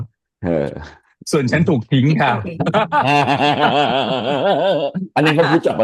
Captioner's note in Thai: เสียงหัวเราะ